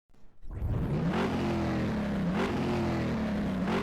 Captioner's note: engine revs